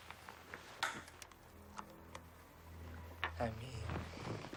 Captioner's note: switch clicks